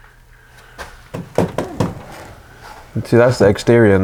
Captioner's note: tapping